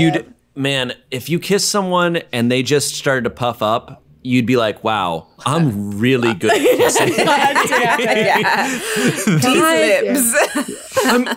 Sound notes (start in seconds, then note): 6.2 all laughing